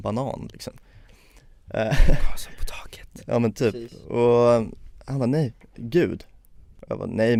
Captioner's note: whispering